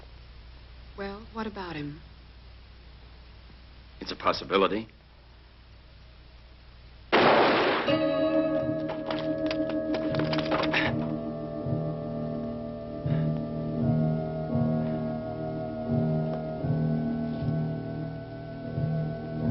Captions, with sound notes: - Well, what about him? - It's a possibility. (gunshot firing) (somber music)